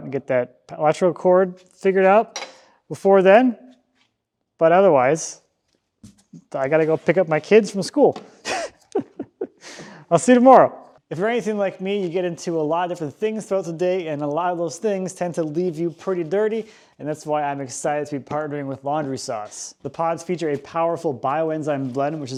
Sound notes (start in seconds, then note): 8.4 laughs